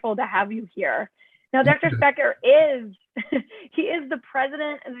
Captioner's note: laughter